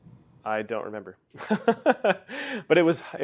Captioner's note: laugh